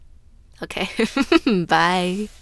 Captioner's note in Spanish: risas